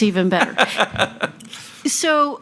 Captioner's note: laughing